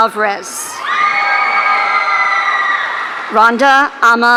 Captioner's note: audience cheering